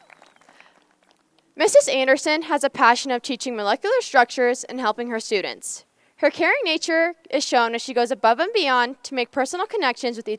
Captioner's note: appuse